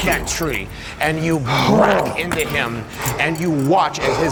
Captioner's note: breathing heavily